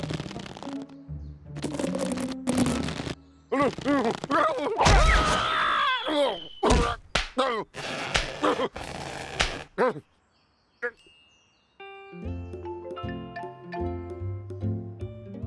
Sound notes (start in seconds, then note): 3.7 nervous stammering; 7.4 grunts